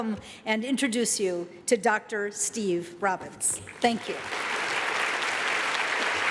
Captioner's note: applause